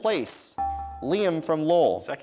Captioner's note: dinging